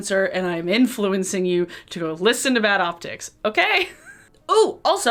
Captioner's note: chuckles